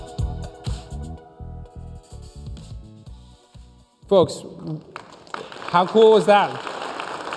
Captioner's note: applause